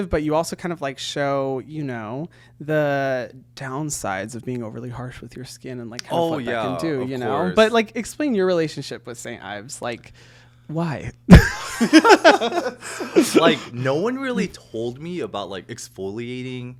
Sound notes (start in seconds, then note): 11.3 both giggling